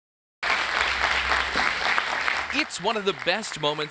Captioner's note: audience applauding